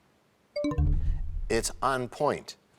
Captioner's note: bell chimes, time expires